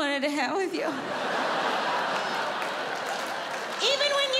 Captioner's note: audience laughs